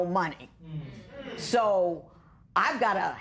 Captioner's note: spectators murmur